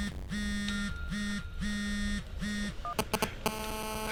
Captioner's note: buzzing